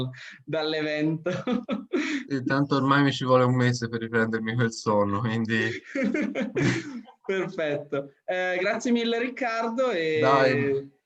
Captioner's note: laughs